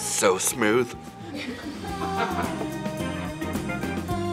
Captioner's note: all laughing